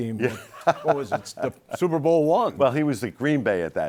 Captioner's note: laughs